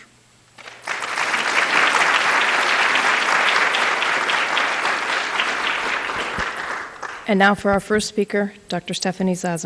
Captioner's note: applause